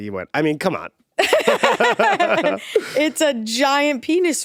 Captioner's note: both laughing